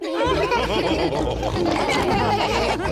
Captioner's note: chuckles; all laughing